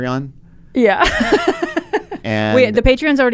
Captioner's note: laughs